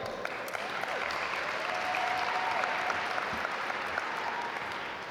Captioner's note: audience applaud